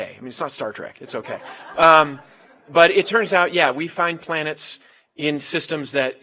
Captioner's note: laugh